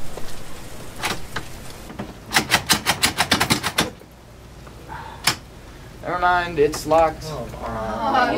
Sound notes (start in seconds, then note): 0.9 door clicks, but doesn't open; 2.2 even more aggressive door handle tugging; 4.8 sighs; 7.3 various amounts of complaining